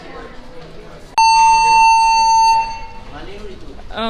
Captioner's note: emergency alarm sounds